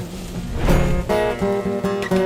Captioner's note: flames whooshing